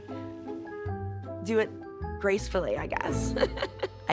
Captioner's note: laughs